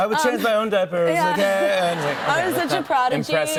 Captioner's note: laughter